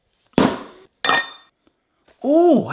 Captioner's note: metal clanging